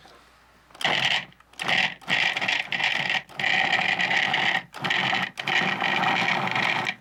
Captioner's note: whirring